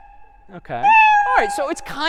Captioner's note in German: meow